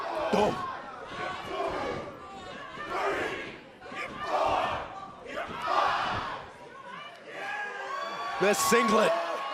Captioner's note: crowd cheering